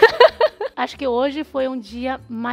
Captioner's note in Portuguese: risos